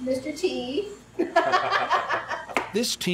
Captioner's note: laughter